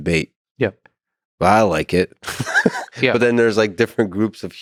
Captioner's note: laughs